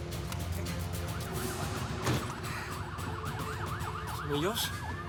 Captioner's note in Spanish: sonido de sirenas